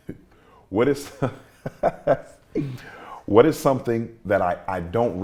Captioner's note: laughs